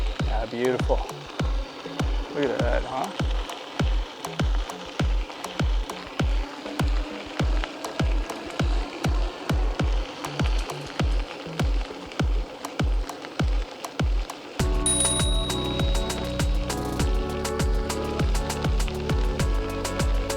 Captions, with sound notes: Aw, beautiful. Look at that, huh? [bicycle bell dings]